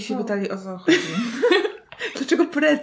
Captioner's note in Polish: śmiech